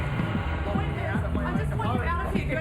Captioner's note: people arguing